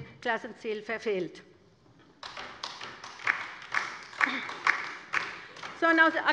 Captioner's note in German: Beifall bei der LINKEN